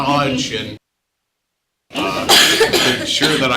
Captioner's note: audio cuts